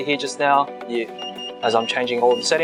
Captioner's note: beeping sounds